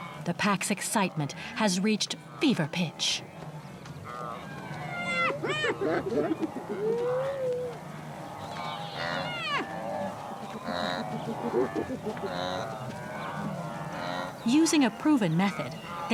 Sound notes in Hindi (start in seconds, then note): 5.0 लकड़बग्घे भौंकते हैं